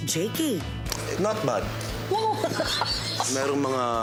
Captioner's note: laughs